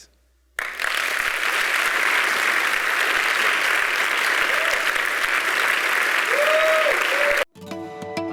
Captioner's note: applause